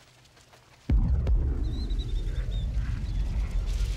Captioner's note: booming